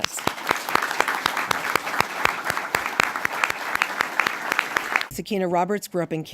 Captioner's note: applause